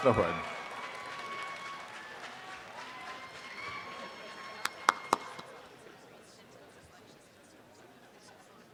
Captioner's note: audience applause